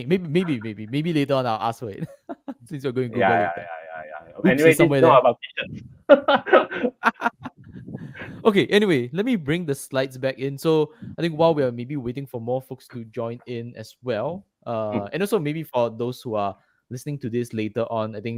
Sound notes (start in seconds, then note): 0.3 laughs; 6.1 laughter